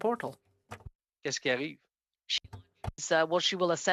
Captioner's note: speaking French